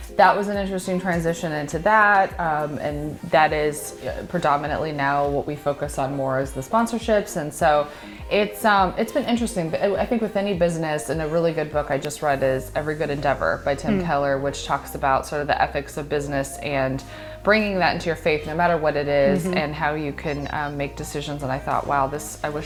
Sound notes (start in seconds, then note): 19.2 laughs